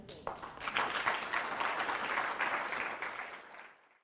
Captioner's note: applause